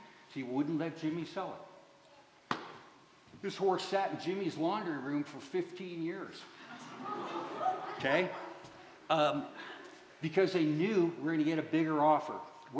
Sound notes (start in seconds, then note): 6.6 laughter